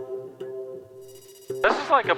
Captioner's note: phone chimes